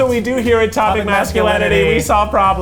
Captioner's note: in Unison